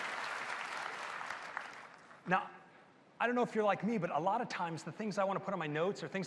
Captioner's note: applause